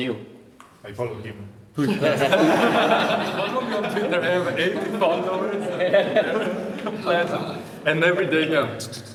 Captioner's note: laughter